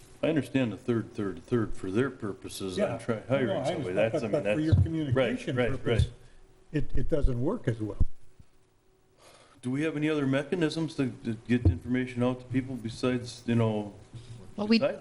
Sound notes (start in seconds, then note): 9.2 sighing